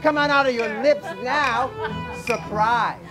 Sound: man imitating sound of dog

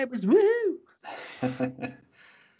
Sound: laughs

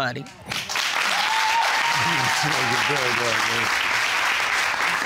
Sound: audience cheering

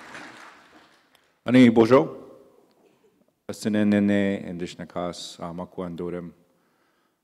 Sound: in Indigenous language

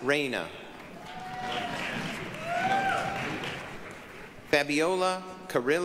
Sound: applause, cheering

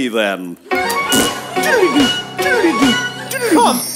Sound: magic noises

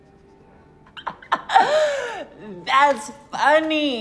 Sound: laughs

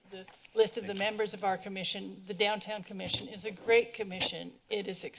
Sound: none

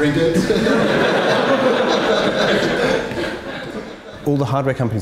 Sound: everyone laughs

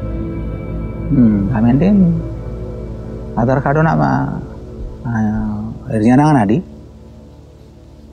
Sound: speaking sora

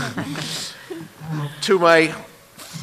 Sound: laughter

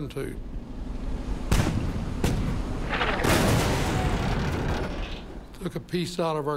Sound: cannon shots exploding

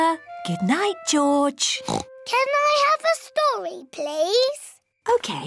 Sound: oinks

